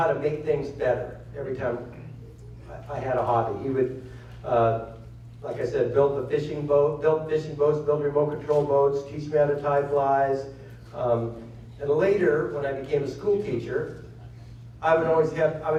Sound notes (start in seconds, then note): none